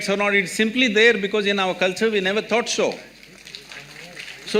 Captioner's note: applause